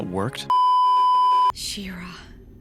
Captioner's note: beeeeeeeeeeeep